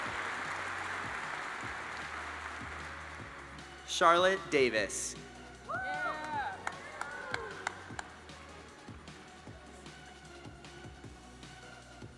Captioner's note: applause